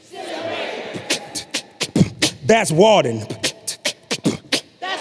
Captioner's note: beatboxing